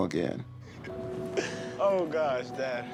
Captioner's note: laughter